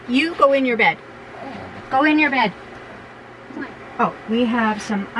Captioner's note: grrrrrr